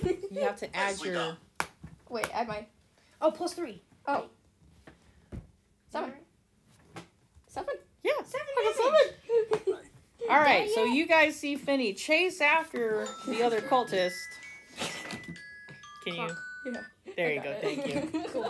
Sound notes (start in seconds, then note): 13.0 phone alarm interruption